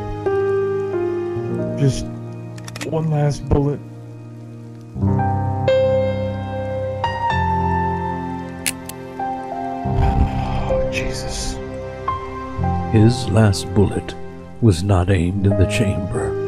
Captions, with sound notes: Just... One last bullet. *click* *sighs* Jesus! His last bullet was not aimed at the chamber.